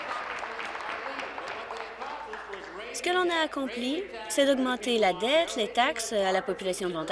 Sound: applause

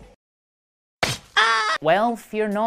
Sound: yelling

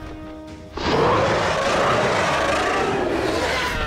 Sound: roaring

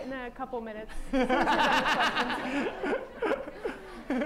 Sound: laughter

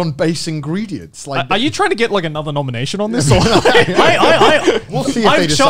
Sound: laughs

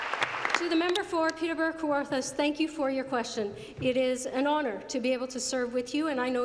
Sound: applause

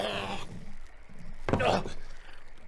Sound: thud

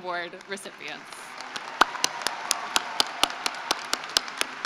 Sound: cheering and applause

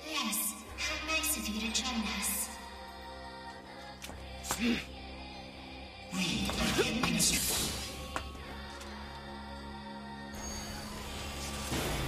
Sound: laughs

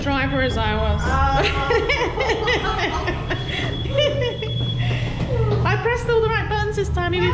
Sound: laughing

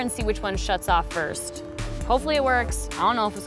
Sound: none

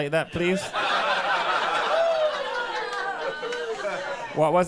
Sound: people laughing

